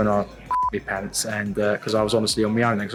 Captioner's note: beep